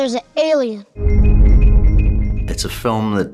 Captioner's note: spacecraft rumbling